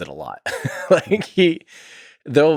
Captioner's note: Tim laughs